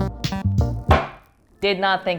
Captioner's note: book slamming